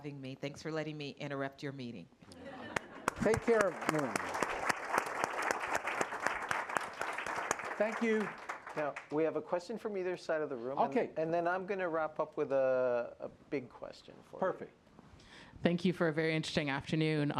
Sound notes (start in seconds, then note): 2.3 laughter; 4.2 applause